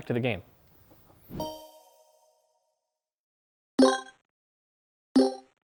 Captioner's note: video game beeping